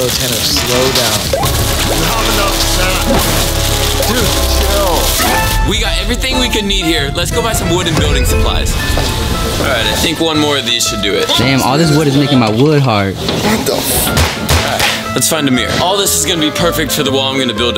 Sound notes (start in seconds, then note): none